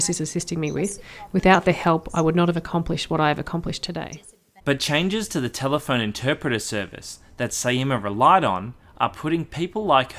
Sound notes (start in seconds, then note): 4.3 voiceover